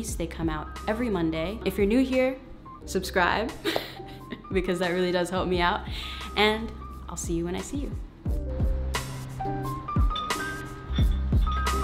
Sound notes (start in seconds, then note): 3.6 laughter; 8.3 cool jazzy music